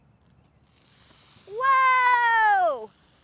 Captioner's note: loud fizzing